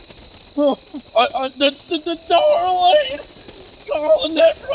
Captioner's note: stammers